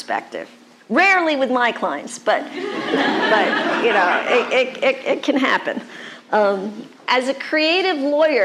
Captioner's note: audience laughter